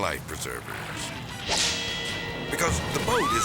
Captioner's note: whip cracks